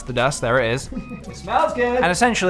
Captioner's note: laughs